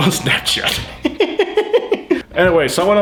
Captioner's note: laughs